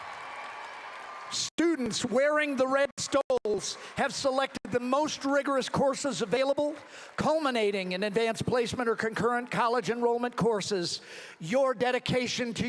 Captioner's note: applause